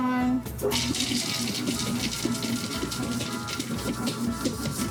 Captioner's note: mixer turning